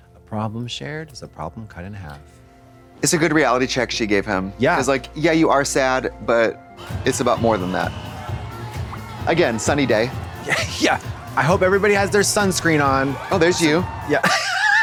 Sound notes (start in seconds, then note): 7.9 crowd cheering; 7.9 whistle blowing